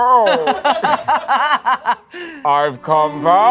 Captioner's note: laughing